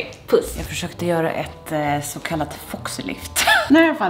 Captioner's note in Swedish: skrattar